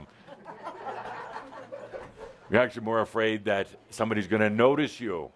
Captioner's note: some laughter